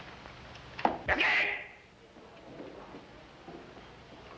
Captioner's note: yelling